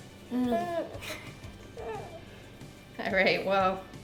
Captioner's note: kids grunting